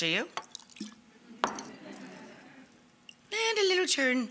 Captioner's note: audience laughs